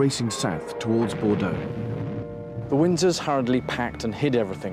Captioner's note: canons booming